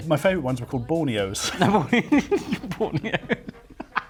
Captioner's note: laughing